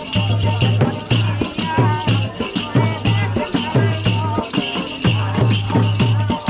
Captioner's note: chanting